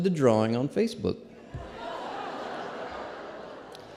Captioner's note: laughter